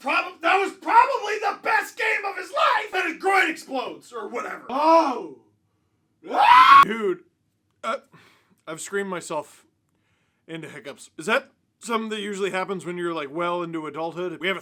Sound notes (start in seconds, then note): 6.2 screams